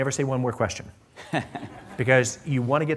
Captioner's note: laughter